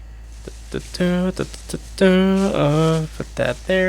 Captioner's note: festive noises